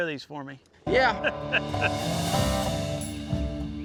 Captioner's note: all laughing